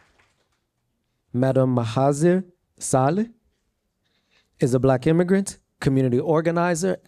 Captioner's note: applause